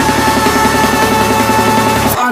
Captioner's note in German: Flattern, flattern